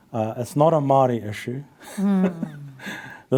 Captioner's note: laughs